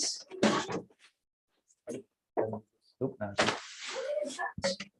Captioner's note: chatter